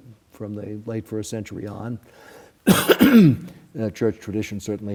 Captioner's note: coughs